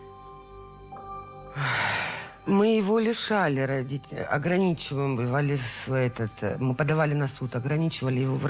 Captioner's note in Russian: вздыхает